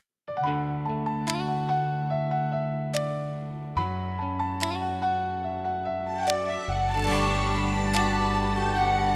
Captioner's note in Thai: ปรบมือ